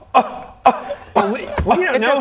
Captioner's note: scoff